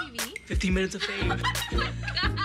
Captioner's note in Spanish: Risas